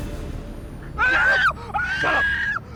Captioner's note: screams